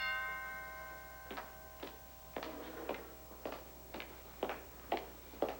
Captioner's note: doorbell rings